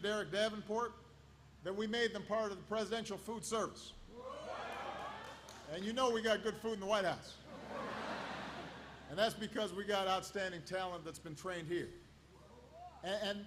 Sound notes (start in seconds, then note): 4.6 applause; 7.4 laughter